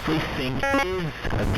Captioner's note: glitching noise